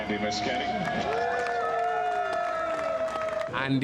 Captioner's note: all cheering